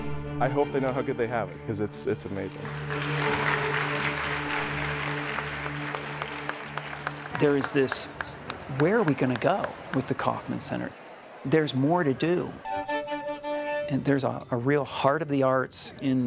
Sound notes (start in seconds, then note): 2.5 applause